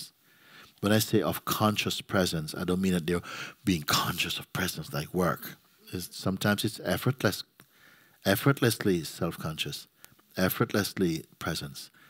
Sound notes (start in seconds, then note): none